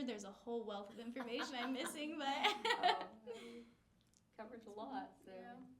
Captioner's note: laughing